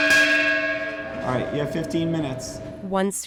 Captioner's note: pot clanging